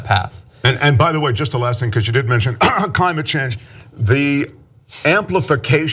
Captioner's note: cough